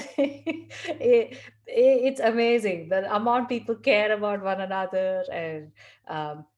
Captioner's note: laugh